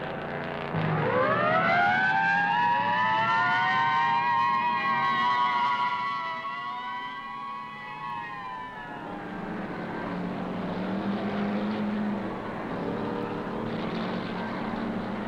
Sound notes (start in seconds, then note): 1.1 sirens blaring